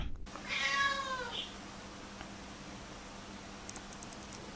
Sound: Kaapo meows aggressively

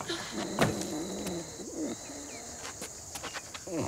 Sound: grunts; snoring

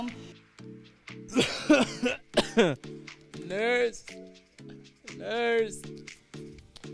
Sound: coughs

